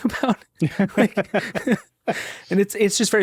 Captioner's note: chuckling